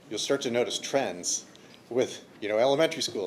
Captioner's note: none